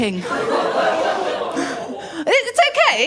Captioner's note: laughter